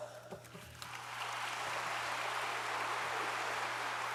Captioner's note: audience applauds